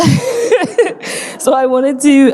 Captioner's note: audience laughing